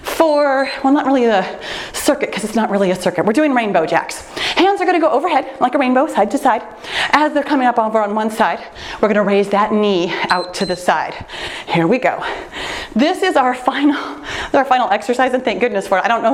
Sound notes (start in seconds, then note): 0.0 timer beeps; 10.2 timer beeps